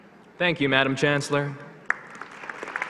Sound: applause

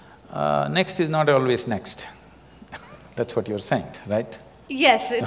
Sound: laughs

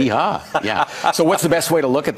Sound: laughs

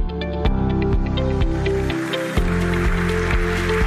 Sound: applause

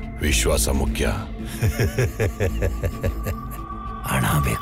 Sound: laugh

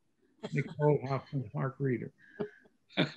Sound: laughter

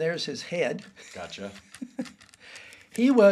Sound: laughs

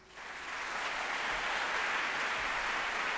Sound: applause

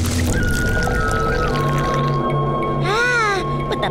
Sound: water pours

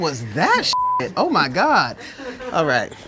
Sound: laughter

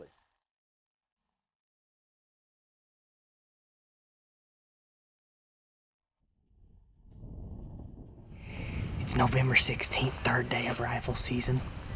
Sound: whispering

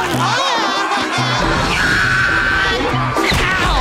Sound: laughing; screaming

